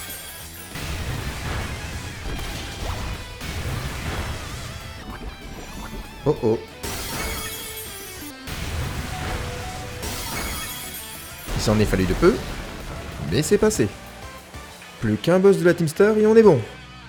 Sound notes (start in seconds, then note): 9.2 low HP sound